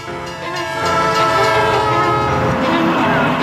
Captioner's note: train blares horn